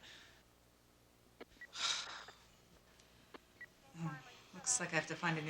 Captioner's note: sighs